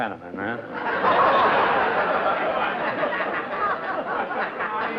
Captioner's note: laughter